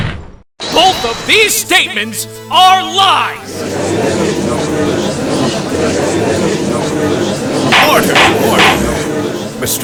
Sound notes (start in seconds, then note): 3.3 gallery chattering